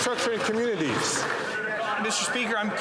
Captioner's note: some Applause